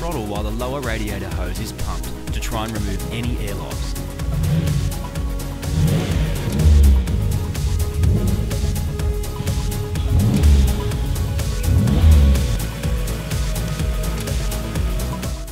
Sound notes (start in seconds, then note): 4.2 engine revs; 5.7 engine revs louder; 6.4 engine revs; 9.9 engine revs; 12.6 engine idles